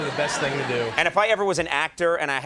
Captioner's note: audience laughs